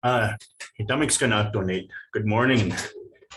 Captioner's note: speaking in foreign language